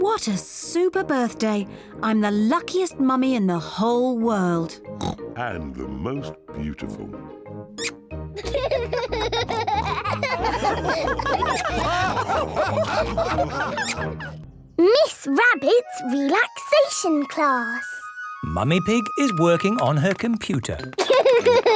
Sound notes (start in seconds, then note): 5.0 oinks; 8.4 both giggle; 10.7 all laugh; 20.9 laughter